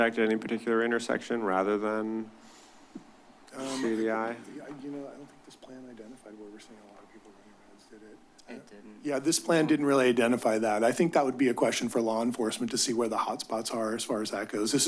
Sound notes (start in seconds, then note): 6.4 indistinct chatter